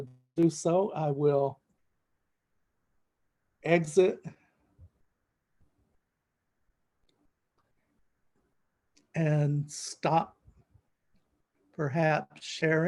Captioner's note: silent